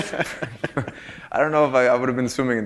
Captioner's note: laughter